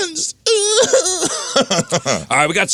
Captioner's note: crying